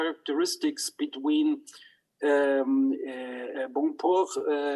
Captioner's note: speaks in foreign language